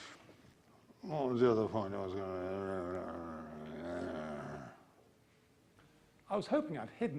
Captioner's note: grumbling